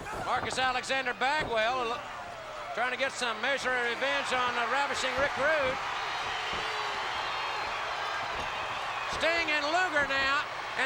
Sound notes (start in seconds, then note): 6.2 crowd cheers